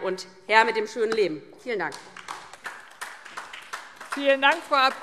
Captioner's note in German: Beifall DIE LINKE